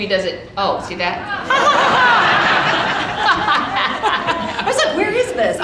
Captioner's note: audience laughing